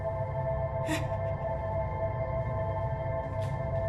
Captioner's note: whimper